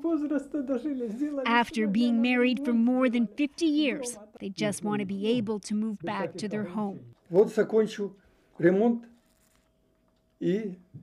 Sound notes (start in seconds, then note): 4.7 speaking Foreign Language